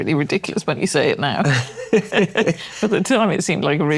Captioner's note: laughter